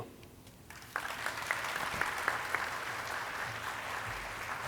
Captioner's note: audience clapping